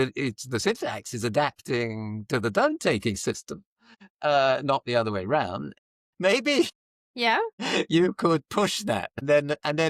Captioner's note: laughs